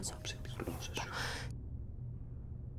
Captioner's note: breath